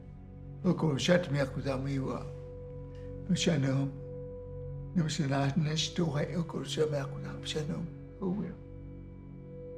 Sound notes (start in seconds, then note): 0.7 speaking in Native language